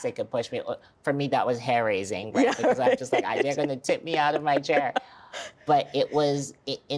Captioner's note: laughter